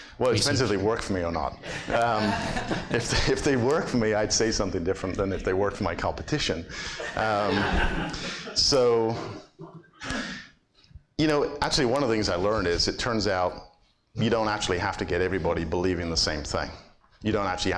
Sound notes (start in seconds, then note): 1.6 everyone laughs; 7.0 audience laughs